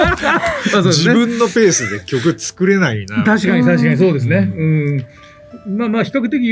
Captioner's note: laughs